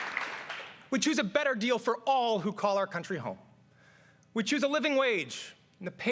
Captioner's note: cheers and applause